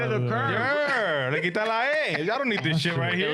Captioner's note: speaking In Foreign Language